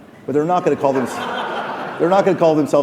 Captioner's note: laughing